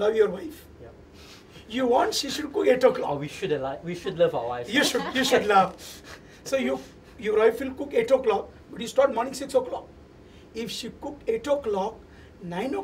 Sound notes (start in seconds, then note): 4.6 laughter